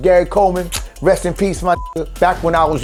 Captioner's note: kisses; beep